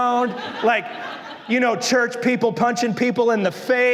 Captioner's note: congregación se ríe